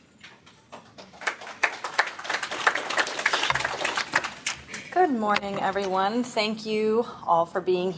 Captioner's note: �applause�